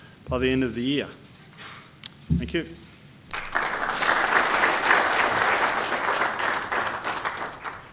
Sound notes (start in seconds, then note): 3.3 applause